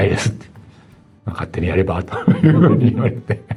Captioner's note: laughs